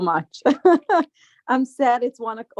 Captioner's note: laughing